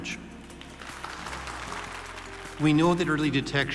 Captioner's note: audience applauding